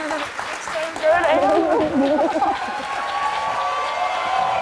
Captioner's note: crowd cheering